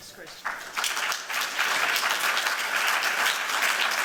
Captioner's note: applause